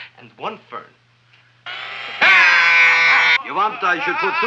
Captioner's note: drill whirring; man screaming